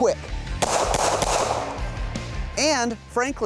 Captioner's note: gunshots